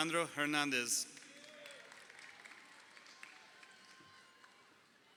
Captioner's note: crowd cheering